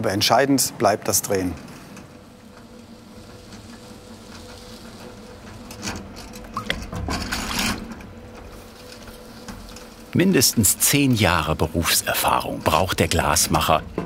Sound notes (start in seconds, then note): 6.4 rippling, rattling